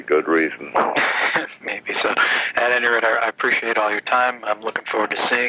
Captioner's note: laughs